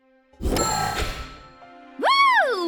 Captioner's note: ding!